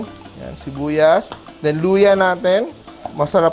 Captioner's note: sizzle